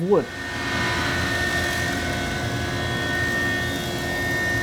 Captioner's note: machinery whirs